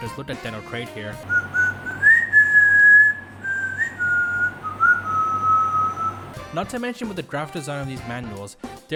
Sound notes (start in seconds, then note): 1.3 whislting theme